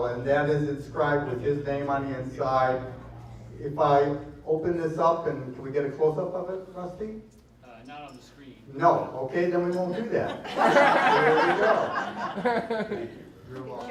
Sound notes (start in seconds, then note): 10.1 laughter